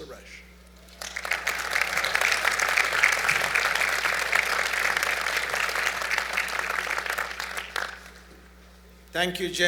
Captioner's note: applause